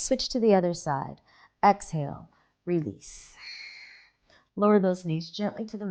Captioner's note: exhaling